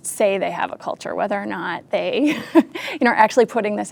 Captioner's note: laughs